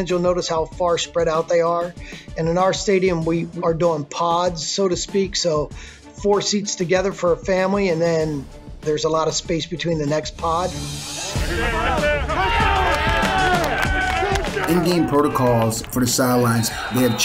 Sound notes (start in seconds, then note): 12.7 clapping